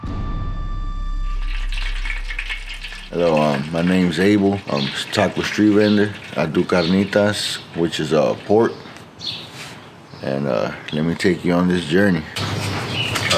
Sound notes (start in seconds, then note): 0.0 dramatic music; 1.1 oil sizzling; 13.1 birds chirping